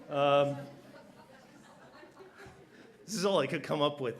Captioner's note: laughter